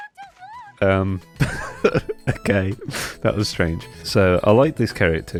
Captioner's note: laugh